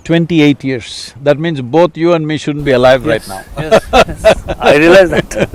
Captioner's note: laughs